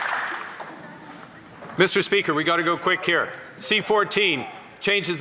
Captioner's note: some Applause